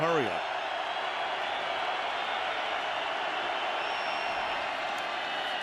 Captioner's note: crowd cheering